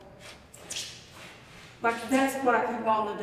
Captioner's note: shoes screeching